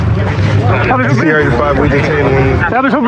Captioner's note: excxciteded c chatttt